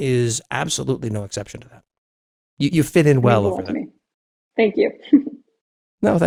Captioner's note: laugh